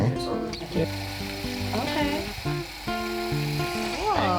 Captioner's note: motor whirring